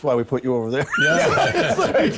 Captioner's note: laughing